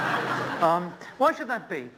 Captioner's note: laughter